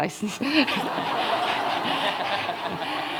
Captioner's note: laughter